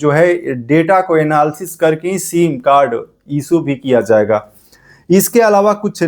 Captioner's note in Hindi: नाक से की जाने वाली आवाज़